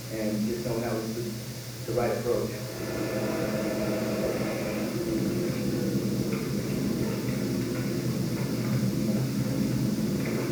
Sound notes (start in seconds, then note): 2.0 machine roars